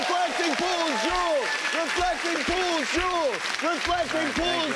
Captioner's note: cheers and applause